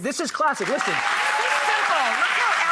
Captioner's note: applause